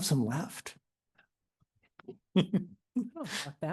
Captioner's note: laughter